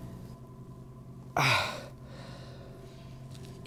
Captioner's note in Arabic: يشتكي